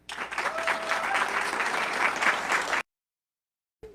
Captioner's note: audience clapping